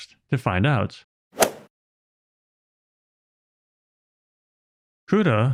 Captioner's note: golf ball hit sound effect